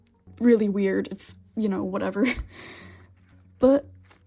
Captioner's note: laughs